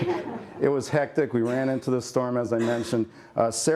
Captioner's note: laughter